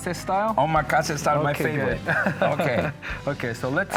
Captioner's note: chuckles